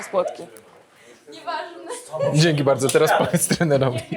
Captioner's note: laughs